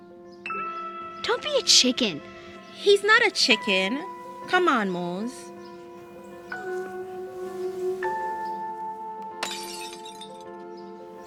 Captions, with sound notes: Don't be a chicken. He's not a chicken. Come on Mose. (glass breaking)